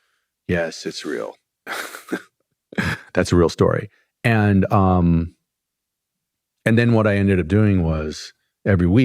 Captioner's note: laughter